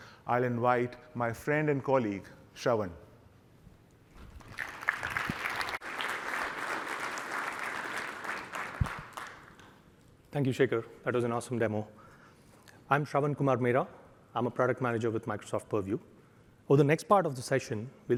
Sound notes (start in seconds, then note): 4.3 applause